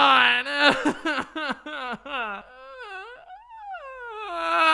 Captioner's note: aang cries; aang is still crying